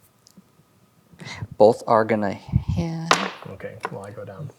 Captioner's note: dice rolling